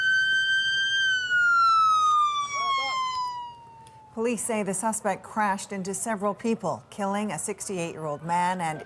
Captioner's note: sirens